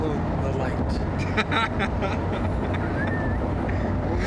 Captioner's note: laughing